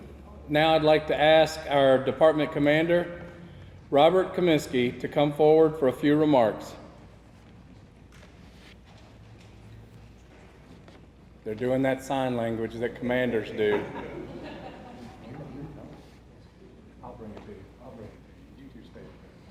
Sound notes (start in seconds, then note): 13.3 attendees laughing